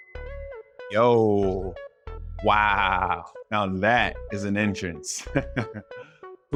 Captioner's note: ping; chuckles